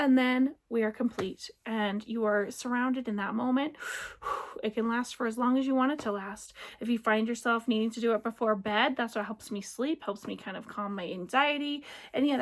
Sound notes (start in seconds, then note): 3.8 deep breath